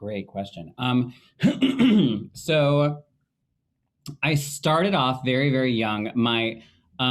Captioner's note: clearing throat